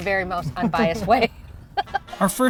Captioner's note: laughing